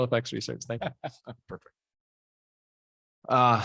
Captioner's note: laughing